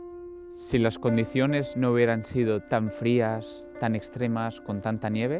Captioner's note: speaking foreign language